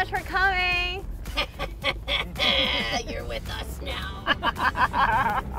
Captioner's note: laughing